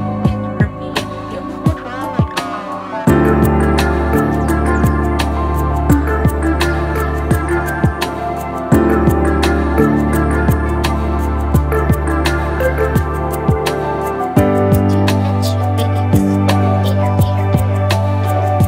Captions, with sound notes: and it will be a beautiful twilight hour. (humming) Students should leave school with care.